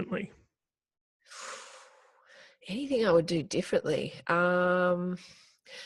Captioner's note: inhaling deeply